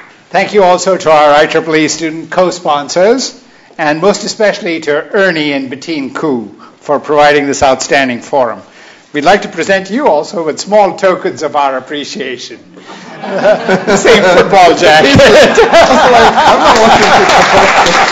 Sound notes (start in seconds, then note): 12.7 laughter; 16.5 applause